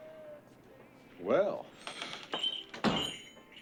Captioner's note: bell dings